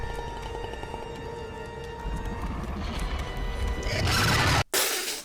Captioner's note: The Gorn growls and screeches